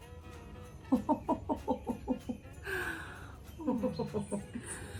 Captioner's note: ho-ho-ho chuckles